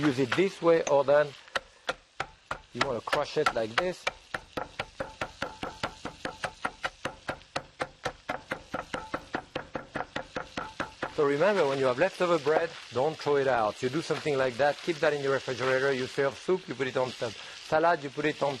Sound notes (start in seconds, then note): 4.0 chopping board thumping